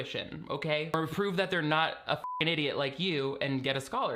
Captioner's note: beep